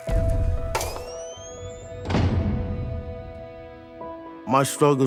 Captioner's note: lighter being lit; jail cell door being slammed